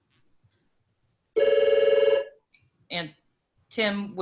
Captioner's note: telephone rings